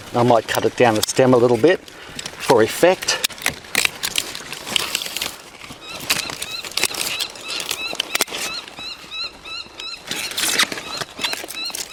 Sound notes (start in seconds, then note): 3.9 bird chirping; 3.9 trimmer clicking